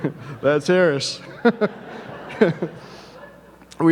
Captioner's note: laughs